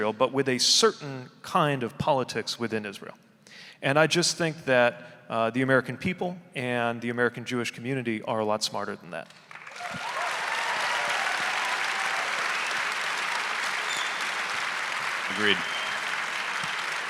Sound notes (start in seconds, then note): 9.4 audience applauding; 9.6 audience cheering